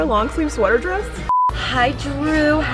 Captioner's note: beeping